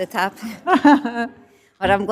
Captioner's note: laughter